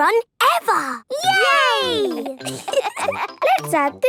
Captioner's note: laughter